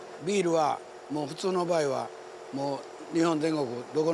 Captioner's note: speaking Japanese